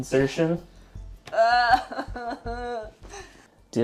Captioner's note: frustrated groans